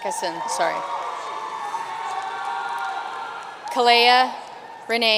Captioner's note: audience cheering and applauding